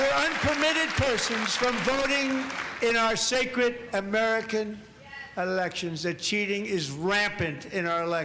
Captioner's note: cheers and applause